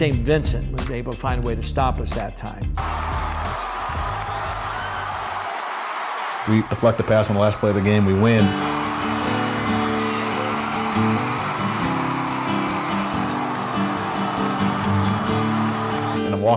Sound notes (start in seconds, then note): 3.3 crowd cheering; 8.2 light guitar music